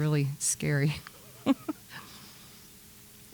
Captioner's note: chuckles